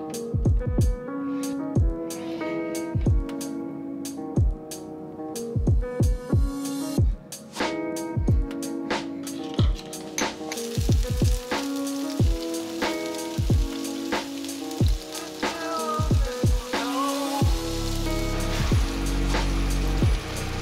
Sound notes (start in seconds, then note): 0.2 soft upbeat music continues; 11.3 oil sizzling; 14.9 soft music continues